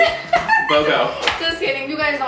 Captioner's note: laughs